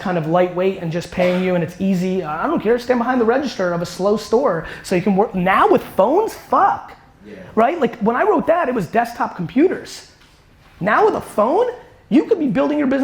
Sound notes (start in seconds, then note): none